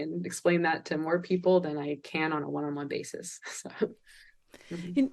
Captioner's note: chuckles